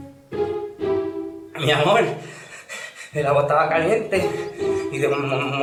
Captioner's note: speaks with a trembling voice